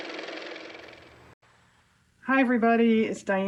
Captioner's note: car motor